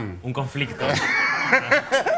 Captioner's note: laughs